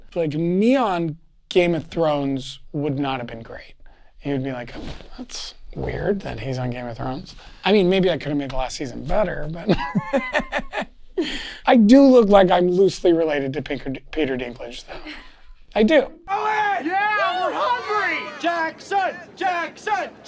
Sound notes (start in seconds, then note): 9.6 laughs; 16.2 man screams